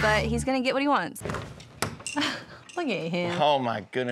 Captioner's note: door opens